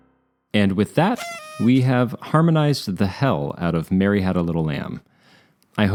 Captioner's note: party horn